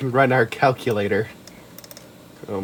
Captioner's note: rapid clicks